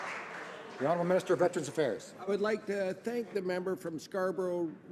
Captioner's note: some Applause